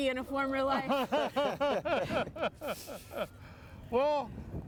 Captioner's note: laughing